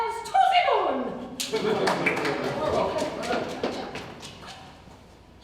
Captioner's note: ensemble applauds